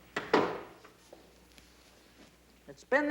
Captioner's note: door thuds shut